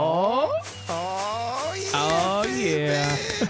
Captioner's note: fireworks explode